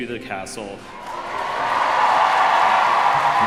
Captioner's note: crowd cheering